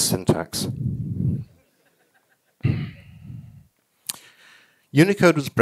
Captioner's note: audience laughing